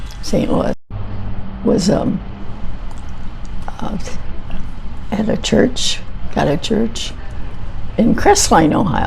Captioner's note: none